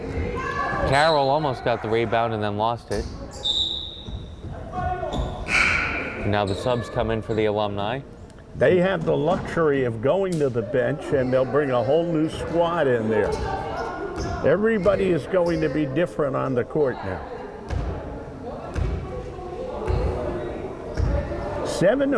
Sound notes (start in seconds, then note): 3.4 whistle blowing; 18.8 crowd chattering